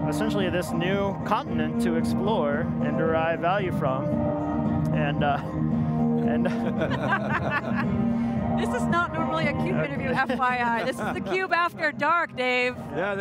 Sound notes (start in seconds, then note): 5.7 jaunty music; 6.4 group laughing